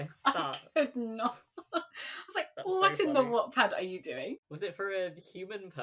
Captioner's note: laughing